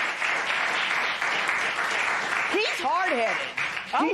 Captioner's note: applause